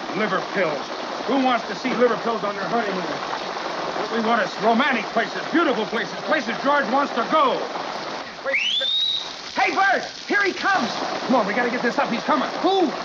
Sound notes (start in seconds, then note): 8.4 whistle